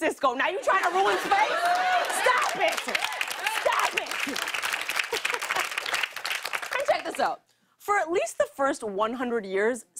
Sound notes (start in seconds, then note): 3.8 applause; 5.0 laughs